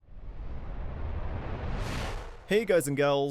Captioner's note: whoosh